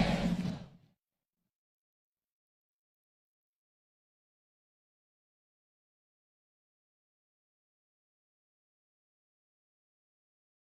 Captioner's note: cheers and applause